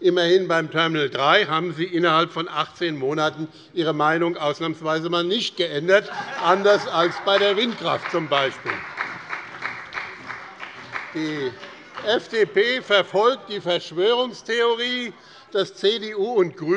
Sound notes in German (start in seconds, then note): 7.8 Heiterkeit und Beifall bei der CDU und dem BÜNDNIS 90/DIE GRÜNEN